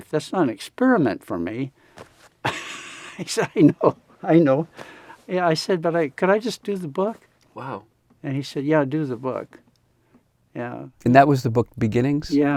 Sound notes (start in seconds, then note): 2.4 laughs